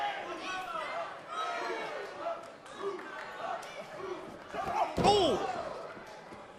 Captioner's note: crowd chatter